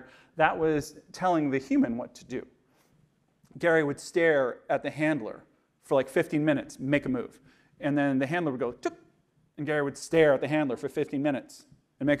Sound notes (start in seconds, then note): 8.9 imitating beep